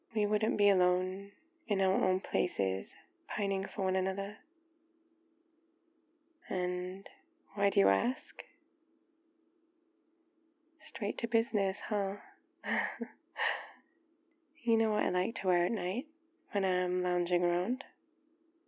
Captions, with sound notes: we wouldn't be alone in our own places... pining for one another and... why do you ask? straight to business huh? *laughs* you know what I like to wear at night when I'm lounging around